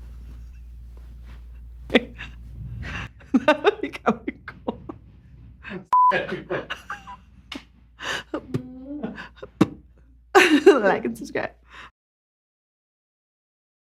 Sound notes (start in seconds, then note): 0.1 laughing silently; 4.6 continues laughing; 6.1 laughing; 8.0 spitting sound again and Laughing; 8.3 spitting sound